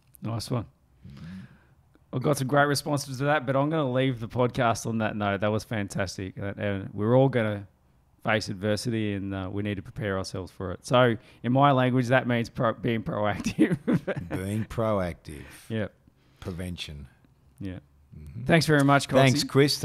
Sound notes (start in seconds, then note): 13.4 chuckles